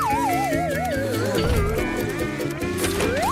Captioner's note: whistling continues